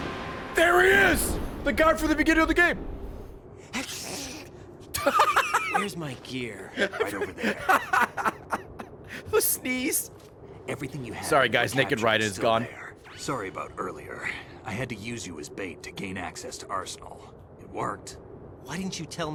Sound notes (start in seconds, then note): 3.7 sneezes; 6.6 laughs